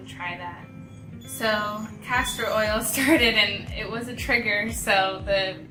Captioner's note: laughs